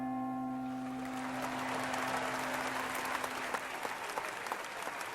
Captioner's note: applause and cheering